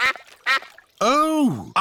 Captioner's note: quacking